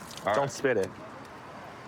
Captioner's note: none